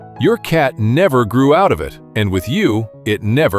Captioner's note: thoughtful